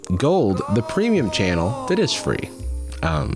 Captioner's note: echo